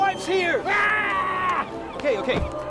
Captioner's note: screams